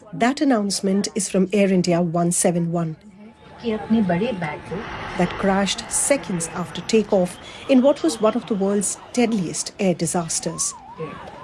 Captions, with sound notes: That announcement is from Air India 171- [speaking Gujarati] That crashed seconds after takeoff in what was one of the world's deadliest air disasters.